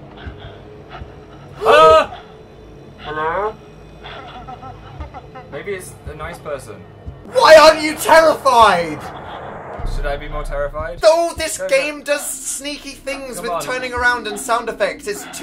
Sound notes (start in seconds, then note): 0.0 muffled crying; 0.1 gasps; 0.8 yelps; 3.7 muffled crying